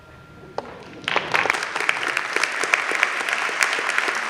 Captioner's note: audience claps